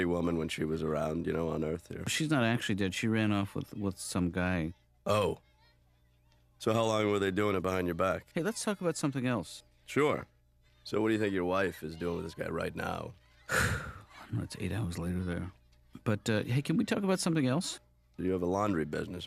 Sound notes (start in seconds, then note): 13.4 sighs